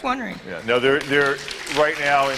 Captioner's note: applause